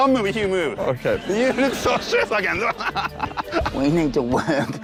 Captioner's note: laughs